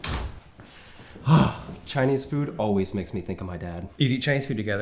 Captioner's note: sighs